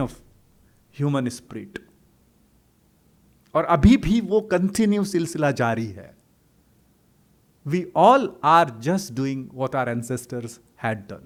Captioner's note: hindi